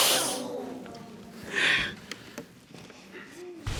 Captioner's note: audience exclaims; sobs